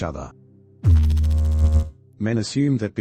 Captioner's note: electrical noise